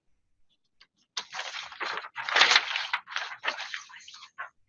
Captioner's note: papers shuffling